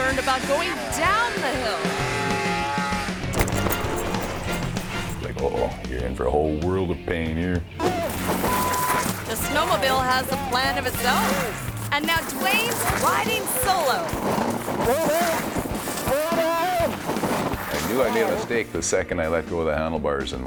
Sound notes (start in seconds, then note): 2.6 engine revving; 8.1 beep; 14.5 screaming